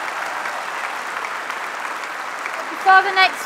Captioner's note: applause